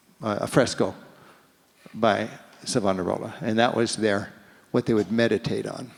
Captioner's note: none